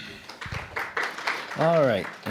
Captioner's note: applause